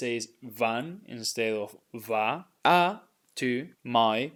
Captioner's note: speaking in Spanish